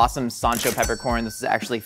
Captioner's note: cash register dings